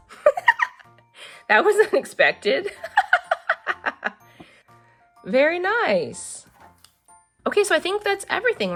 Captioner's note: laughs; laughs